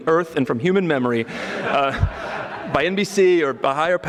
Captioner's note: audience laughing